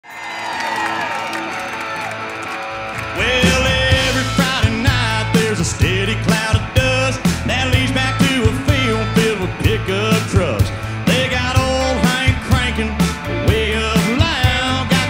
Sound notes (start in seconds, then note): 0.0 crowd cheers; 0.5 blues guitar plays